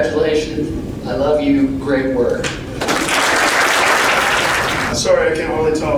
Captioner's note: applause